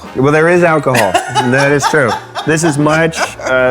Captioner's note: laughing